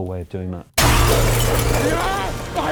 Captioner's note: glass crashing, infected screaming